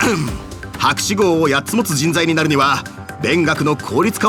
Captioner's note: cough cough